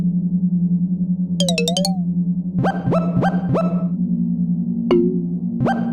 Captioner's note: menu sound effects